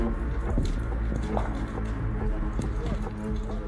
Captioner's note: flames crackle